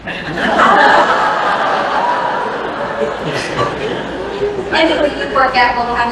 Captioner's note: laughter